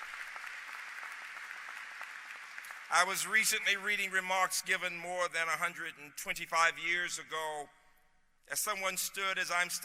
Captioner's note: applause